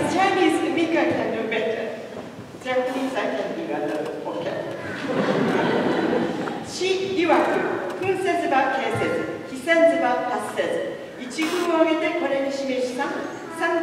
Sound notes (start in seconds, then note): 6.5 speaking chinese